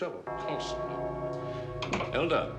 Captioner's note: clock bells chime